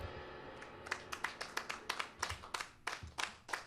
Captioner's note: applause